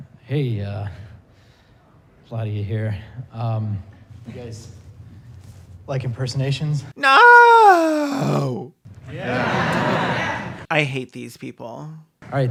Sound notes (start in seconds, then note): 9.0 crowd